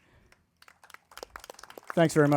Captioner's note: crowd applauding